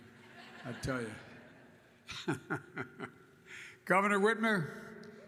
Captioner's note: laughter; laughs